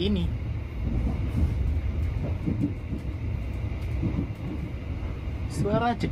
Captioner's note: train sounds